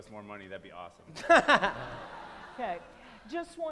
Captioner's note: laughter